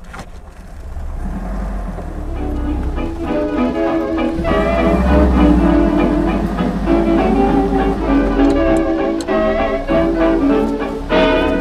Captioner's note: engine revs, sounds & jazzy music playing